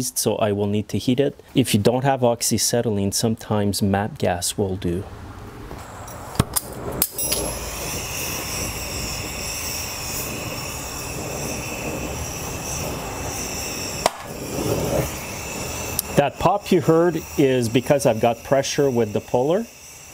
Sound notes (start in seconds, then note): 6.3 flame whooshing; 14.0 popping sound